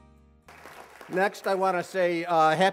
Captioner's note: applause